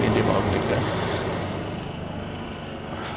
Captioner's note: low hum